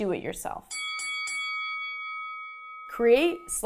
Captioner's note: bell dinging